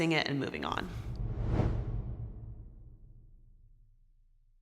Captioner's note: air whooshing